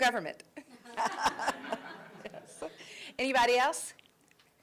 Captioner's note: laughing